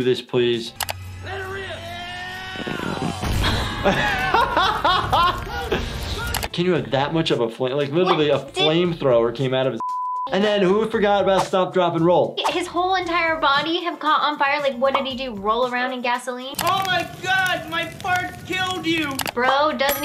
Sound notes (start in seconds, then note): 3.4 laughing; 9.8 beep